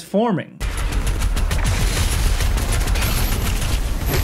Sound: gunshots booming

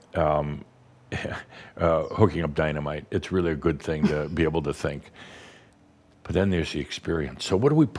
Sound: chuckles

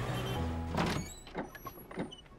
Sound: door opens

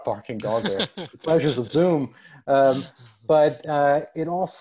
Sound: laughs

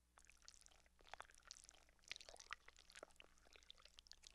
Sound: blood patters

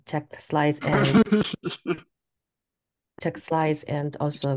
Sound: user sputters

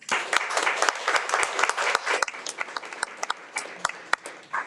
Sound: everyone applauds

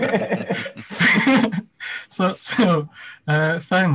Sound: laughs

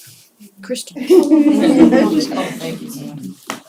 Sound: laughter

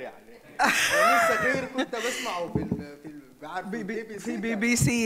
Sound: speaks in foreign language; chuckles; speaks in foreign language

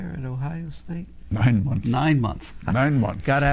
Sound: laughs

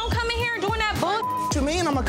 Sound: beep

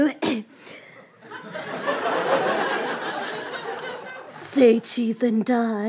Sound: laughter

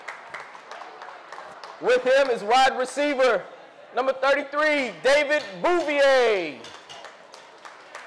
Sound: audience applause

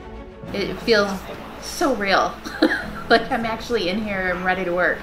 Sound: laughs

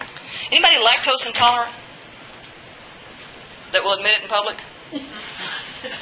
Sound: giggle

